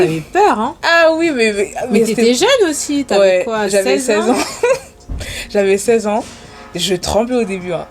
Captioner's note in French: rires